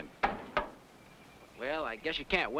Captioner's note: iron knocking